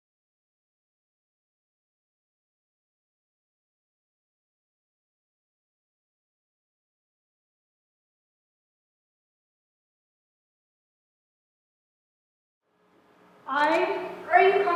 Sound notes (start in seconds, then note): none